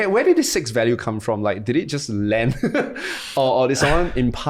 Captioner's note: chuckles